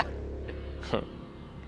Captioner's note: laughs; chuckles